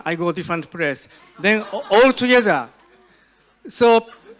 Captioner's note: audience laughs